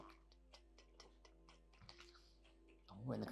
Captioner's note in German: imitiert den Wecker